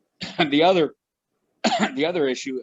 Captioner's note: coughing